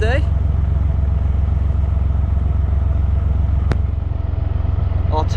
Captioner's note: narrowboat engine sounds